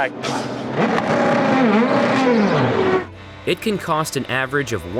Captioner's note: engine revving